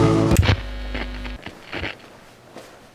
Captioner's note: music fades; static pickup tone; walking